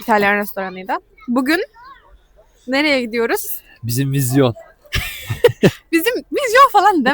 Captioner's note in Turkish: kahkaha